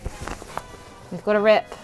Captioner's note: ripping